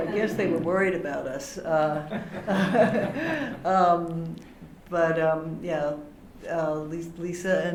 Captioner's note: laughter